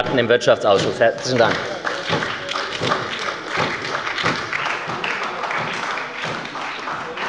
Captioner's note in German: Beifall bei der SPD und der LINKEN